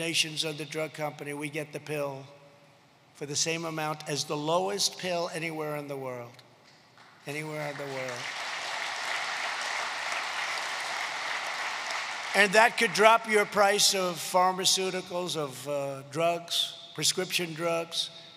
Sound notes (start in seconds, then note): 9.9 applause